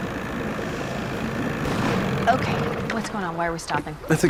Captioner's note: engine backfires